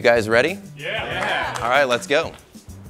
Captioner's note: applause